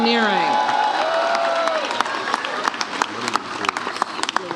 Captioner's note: audience cheers